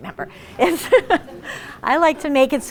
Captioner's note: laughs